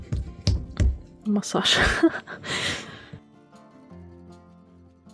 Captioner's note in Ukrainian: сміх